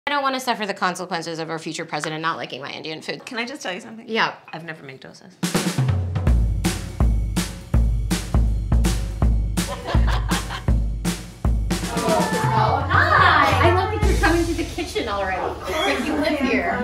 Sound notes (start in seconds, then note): 5.4 mellow drum beat; 9.6 laughing